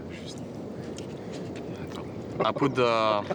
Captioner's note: speaking French